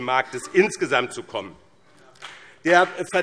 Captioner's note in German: Beifall BÜNDNIS 90/DIE GRÜNEN und CDU